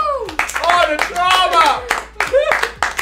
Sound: round of applause

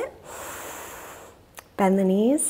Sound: inhales deeply

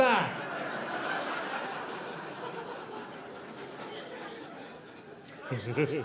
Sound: audience laughing

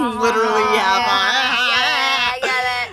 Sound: laughs exaggeratedly; group laughs sarcastically

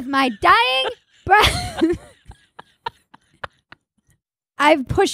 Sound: Cousin Maggie laughing

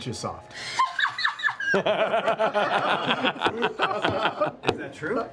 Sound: laughter

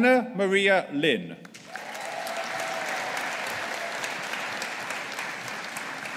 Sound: audience applauding

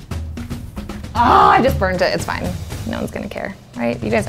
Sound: groans

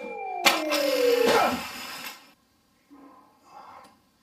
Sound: high pitch sound

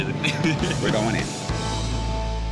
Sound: laughing

